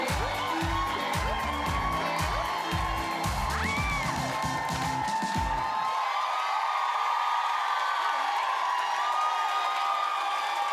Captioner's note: cheers and applause